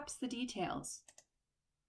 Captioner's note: click